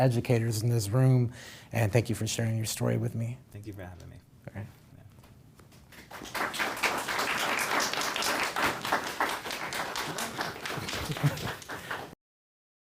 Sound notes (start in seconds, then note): 9.6 applause